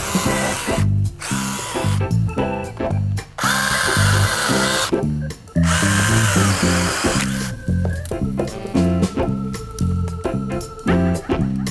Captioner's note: drill whirring